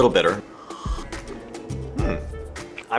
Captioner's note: coffee slurping